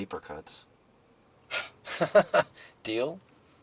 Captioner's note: Kester laughing